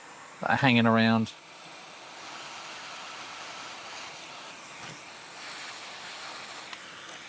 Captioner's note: buzzing